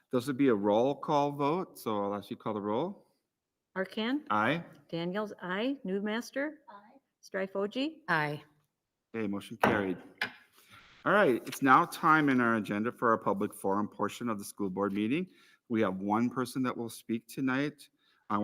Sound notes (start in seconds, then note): 10.4 gavel raps